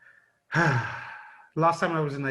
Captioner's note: sighs